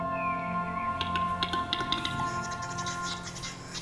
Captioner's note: birdsong; bird makes clicking sound